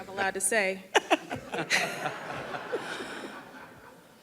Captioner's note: people laughing